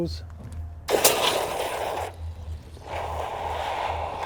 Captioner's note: water burbling